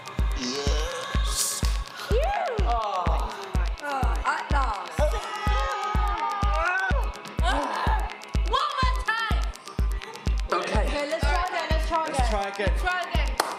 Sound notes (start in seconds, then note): 2.0 sigh of relief; 5.0 shouting and pushing with force